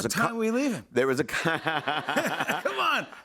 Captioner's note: laughter